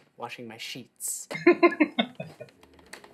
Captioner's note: laughing